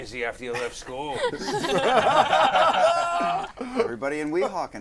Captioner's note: laughter